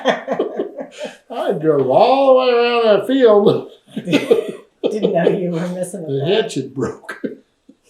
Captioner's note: laughter